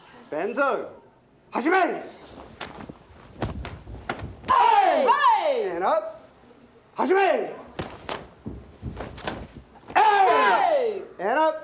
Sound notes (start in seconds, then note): 1.7 speaking foreign language